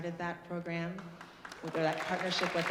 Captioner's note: audience applauding